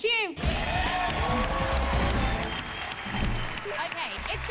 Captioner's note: cheers and applause